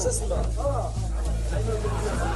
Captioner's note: speaking in a non-english language